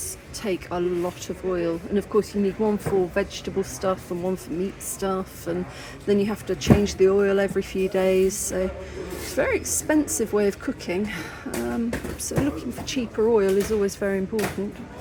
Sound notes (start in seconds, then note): none